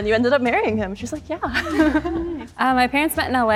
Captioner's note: chuckles